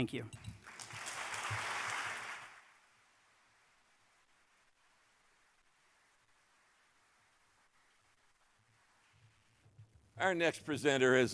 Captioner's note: applause